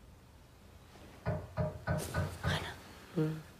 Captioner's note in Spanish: Golpes en la puerta